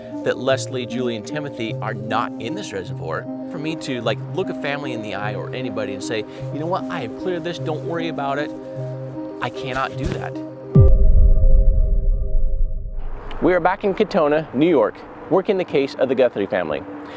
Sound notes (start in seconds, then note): 10.7 heavy thud echoing; 10.7 music abruptly ending